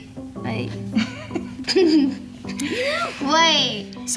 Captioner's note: both laugh